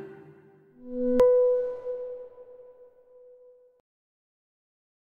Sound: echoing sonic ding

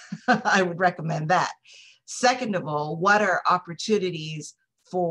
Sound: laughter

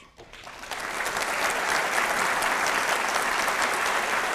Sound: audience applauds

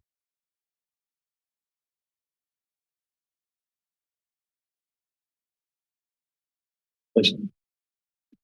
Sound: silence

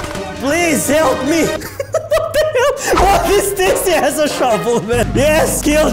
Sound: laughs

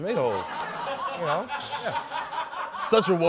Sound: laughter

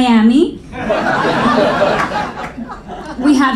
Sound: audience laughing

